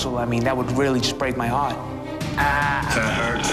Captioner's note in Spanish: groans